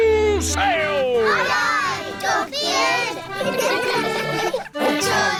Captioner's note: giggling